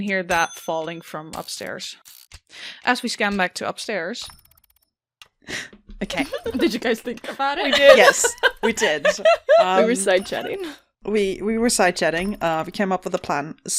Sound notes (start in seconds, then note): 6.1 laughing; 6.1 laughs